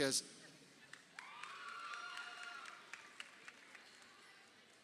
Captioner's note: crowd cheering